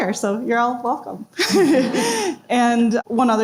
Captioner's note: presenters laugh